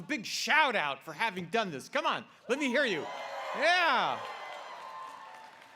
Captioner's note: applause